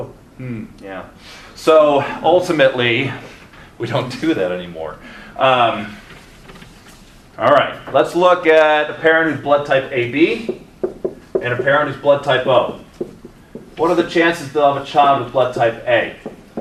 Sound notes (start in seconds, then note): 3.3 chuckles